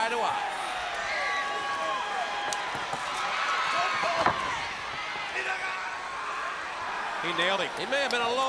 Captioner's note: crowd cheering